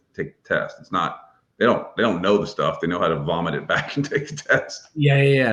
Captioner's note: laughs